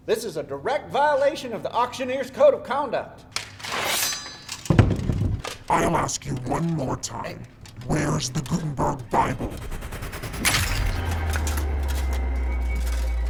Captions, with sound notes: This is a direct violation of the auctioneer's code of conduct. (sword swishing) - I'll ask you one more time. - Hey. - Where is the "Gutenberg Bible"? (gentle dramatic music)